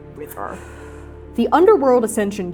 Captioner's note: exhaling